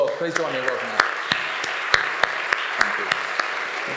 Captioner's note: audience applauding